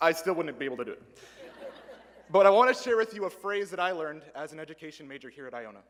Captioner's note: laughter